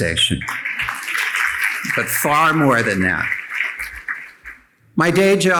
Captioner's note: audience applauding